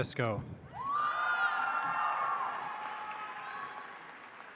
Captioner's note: audience applauds